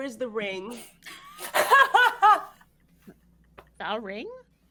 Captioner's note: all laughing